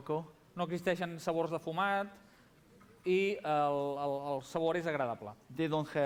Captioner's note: non-english speech